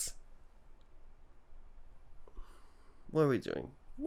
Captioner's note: sigh